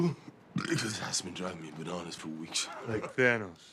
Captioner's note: burps